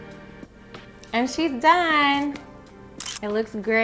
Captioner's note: shutter clicking